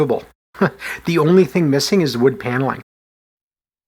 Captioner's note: chuckles